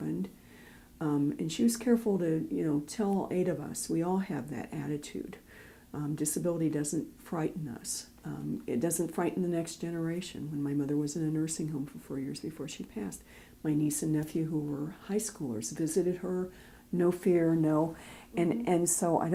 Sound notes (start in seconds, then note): none